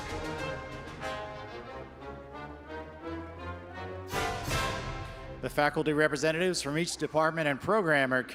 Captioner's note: none